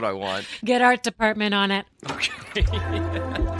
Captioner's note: chuckling